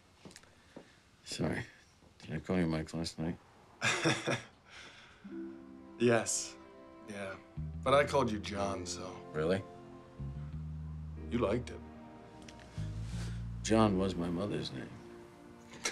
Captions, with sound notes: Sorry, did I call you Mike last night? [LAUGHING] Yes, yeah. -But I called you John, so... -Really? You liked it. John was my mother's name.